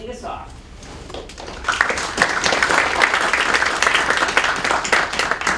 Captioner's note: applause